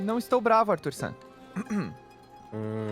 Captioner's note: clears throat